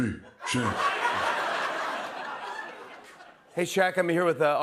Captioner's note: laughter